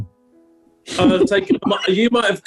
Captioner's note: giggling